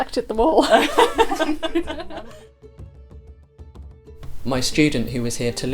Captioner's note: laughing